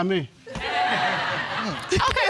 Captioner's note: audience laughing